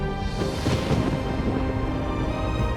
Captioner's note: thunder crashing